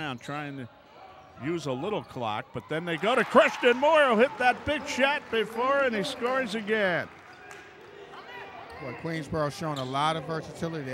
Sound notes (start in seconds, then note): 6.7 yelling; 6.9 clapping